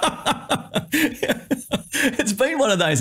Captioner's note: laughs